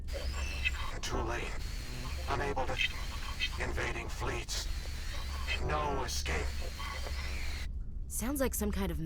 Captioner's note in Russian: помехи